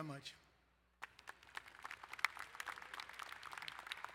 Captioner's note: applauding